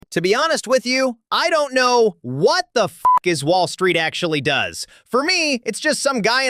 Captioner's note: beeping